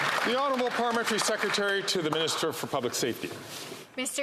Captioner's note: some Applause